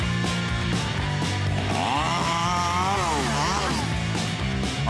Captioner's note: lively music; saw buzzing